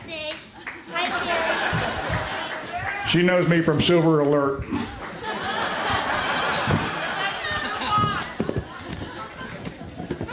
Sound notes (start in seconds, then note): 0.5 crowd laughs; 4.7 laughter